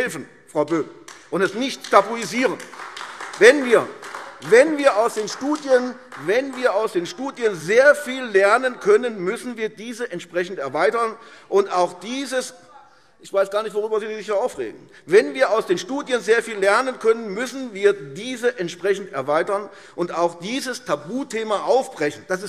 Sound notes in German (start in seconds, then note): 1.0 Beifall AfD - Zurufe